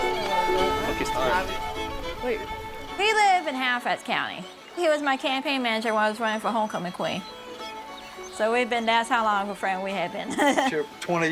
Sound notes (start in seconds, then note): 2.9 people chattering